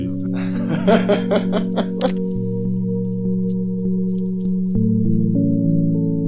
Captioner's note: laughter